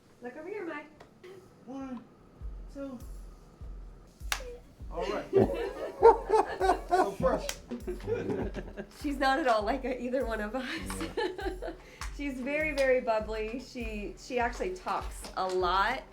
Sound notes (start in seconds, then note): 4.9 laughing